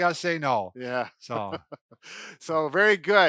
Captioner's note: laughs